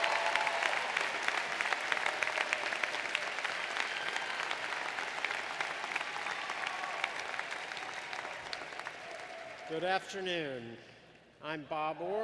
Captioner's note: applause